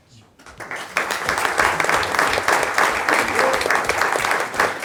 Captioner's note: audience applauding